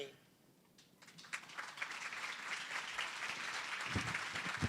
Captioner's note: applause